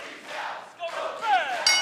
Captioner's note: fans chanting; bell ringing